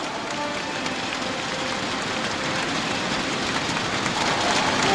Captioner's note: crowd cheering